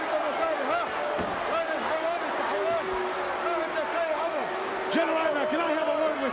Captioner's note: Adnan speaks foreign language